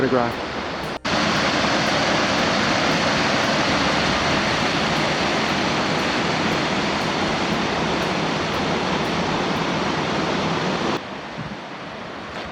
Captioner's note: rushing water; flowing water